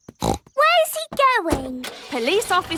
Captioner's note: snorts